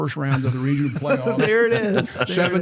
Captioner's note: laughter